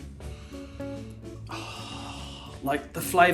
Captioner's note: taking a deep breathe